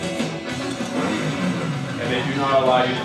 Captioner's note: motor revving